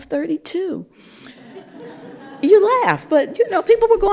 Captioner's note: laughter